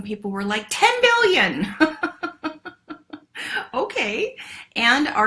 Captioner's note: laughs